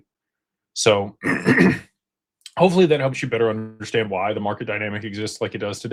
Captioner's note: clears throat